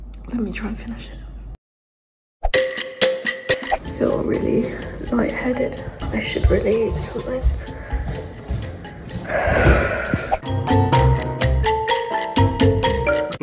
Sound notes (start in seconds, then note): 2.5 upbeat music; 9.2 sigh; 9.6 upbeat music